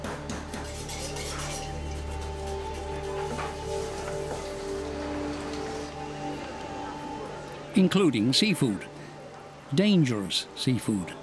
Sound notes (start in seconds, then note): 0.6 scraping; 5.9 indistinct chatter